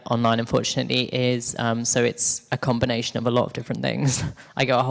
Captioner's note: chuckles